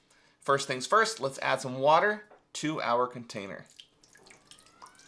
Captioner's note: water bubbling; gentle music